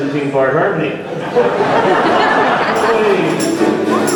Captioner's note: crowd laughing